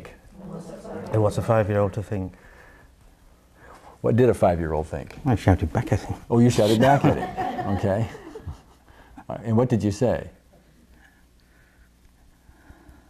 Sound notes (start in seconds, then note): 6.4 laughs; 8.3 audience laughs